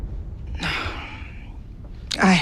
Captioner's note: sighs